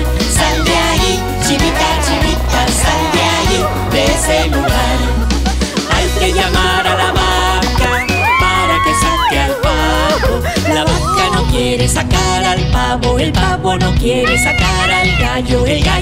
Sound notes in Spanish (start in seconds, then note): 7.7 Grito